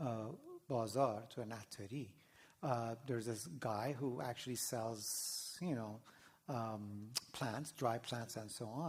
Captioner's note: non-english